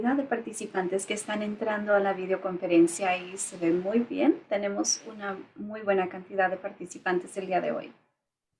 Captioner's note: spanish Speaking